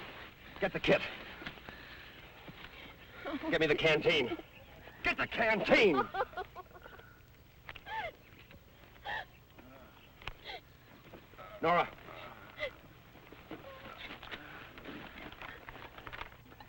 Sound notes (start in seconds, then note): 3.2 Pat sobbing; 5.8 Pat sobbing; 5.8 birds chirping